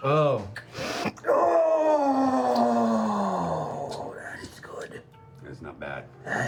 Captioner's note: groaning